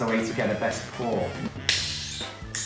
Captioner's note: hissing sound